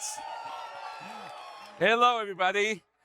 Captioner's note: audience cheering